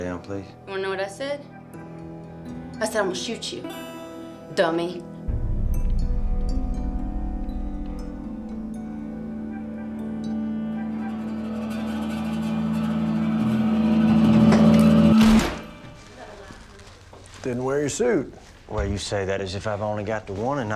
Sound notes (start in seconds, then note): 5.1 tense music; 15.2 gunshot